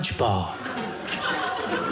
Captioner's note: audience laughing